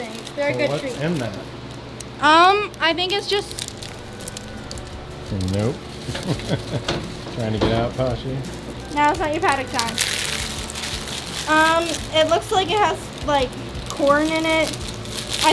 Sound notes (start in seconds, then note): 6.0 laughing; 10.0 plastic crackling